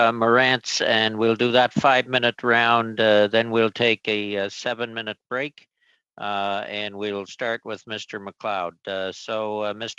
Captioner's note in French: voix de l'interprète